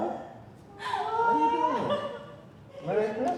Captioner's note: laughter